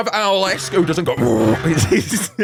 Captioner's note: hoot